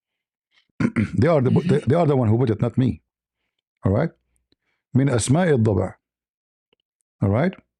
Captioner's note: clears throat